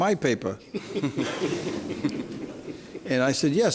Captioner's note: laughs